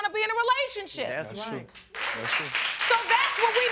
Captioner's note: audience applauding